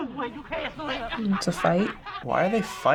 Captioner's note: scuffling; heated arguing